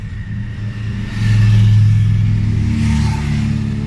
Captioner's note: traffic